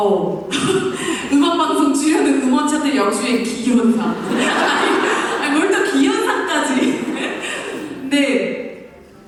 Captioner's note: laughs